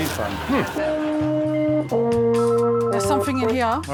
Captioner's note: phone ringing; plays horn